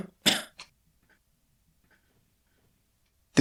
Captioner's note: coughing